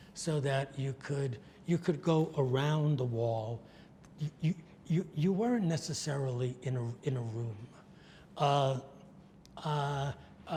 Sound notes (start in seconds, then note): none